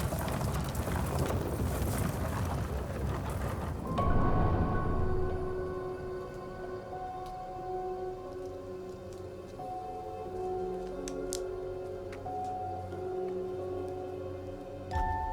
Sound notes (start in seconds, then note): 4.1 pensive music; 8.8 footsteps plodding